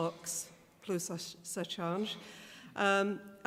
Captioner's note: speaks foreign language